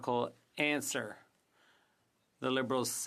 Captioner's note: speaking French